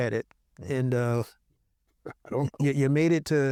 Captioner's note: chuckles